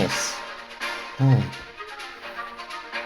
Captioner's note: relieved sigh